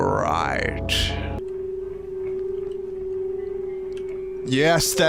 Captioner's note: shrill, discordant tone